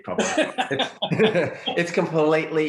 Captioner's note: laughing